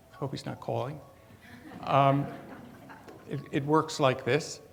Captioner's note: audience chuckles